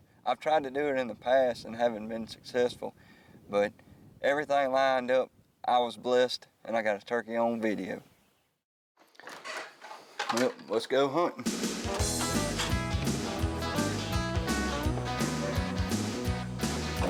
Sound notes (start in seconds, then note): 9.0 door creaking; 11.6 upbeat music